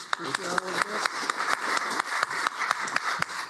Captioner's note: applause